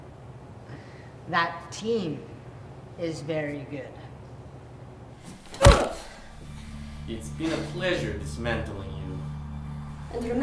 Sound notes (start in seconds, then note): 5.4 fist thuds; 5.6 Lada grunts